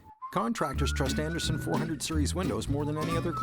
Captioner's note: voiceover